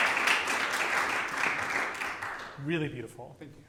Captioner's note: applause